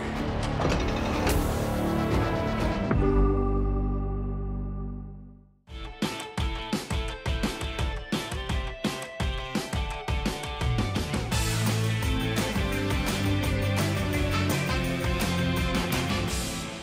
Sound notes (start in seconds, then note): 0.0 gate clanking; 5.8 upbeat music